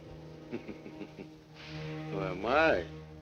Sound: Ivan laughing

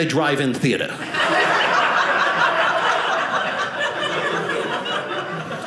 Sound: audience laughing

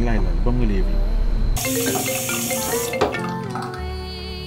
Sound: phone ringing

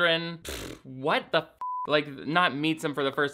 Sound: blows raspberry; beep

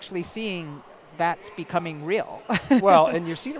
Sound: laughs

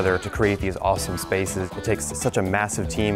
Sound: none

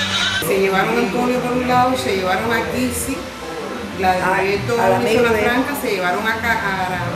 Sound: on phone to foreign radio stations

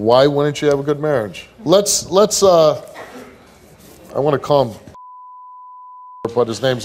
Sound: beep

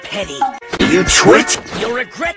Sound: heavily distorted

